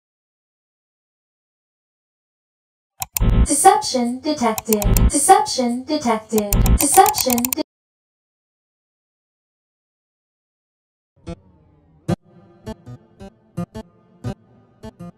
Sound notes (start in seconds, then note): 0.2 click; 4.5 frantic clicking